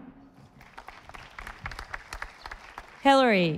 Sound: audience applauding

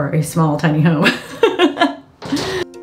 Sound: laughing; inspirational music

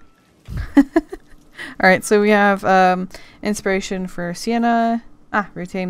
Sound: laughs

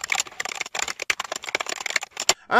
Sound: type noise

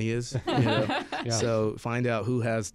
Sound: laughing

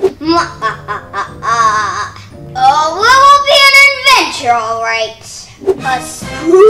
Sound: evil laugh

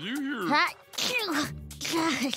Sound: sneezing

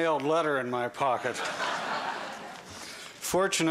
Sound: laughter

